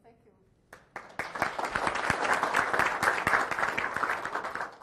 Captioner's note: audience applauding